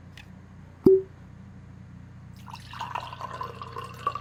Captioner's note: cork pops